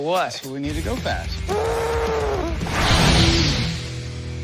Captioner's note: imitates tires screeching